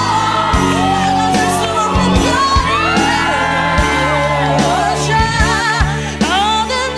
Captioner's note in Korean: 함성 up